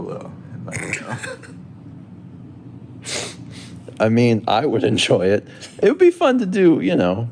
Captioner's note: chuckles